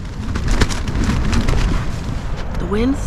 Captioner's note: rain on tent; wind